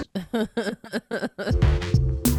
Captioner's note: laughing; upbeat music